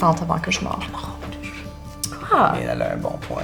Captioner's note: whispers